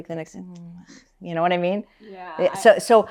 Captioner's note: sighs